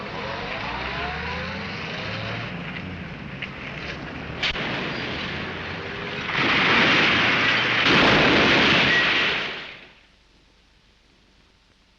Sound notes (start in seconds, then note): 4.4 crashing